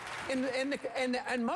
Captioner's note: applause